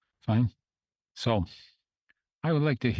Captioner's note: speaking French